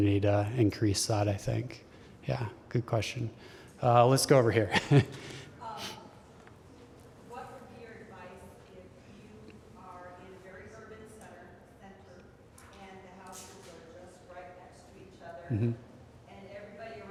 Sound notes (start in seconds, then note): 10.4 laughter